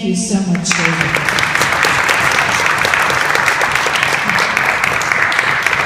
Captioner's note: audience applauding